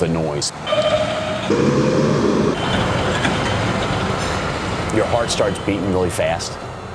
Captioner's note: whirring, traffic sounds, buzzing